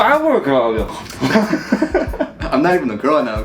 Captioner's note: laughing